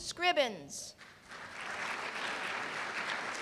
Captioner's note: applause